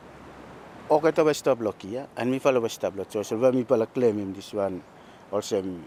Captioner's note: speaks in foreign language